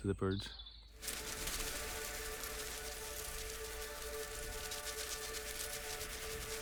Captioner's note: ethereal music; wings flapping